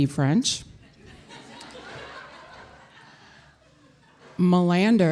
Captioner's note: audience laughing